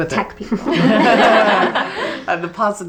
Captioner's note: group laughing